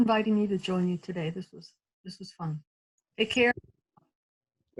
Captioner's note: audio cuts out